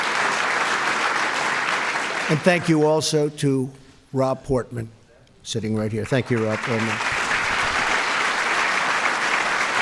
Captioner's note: applause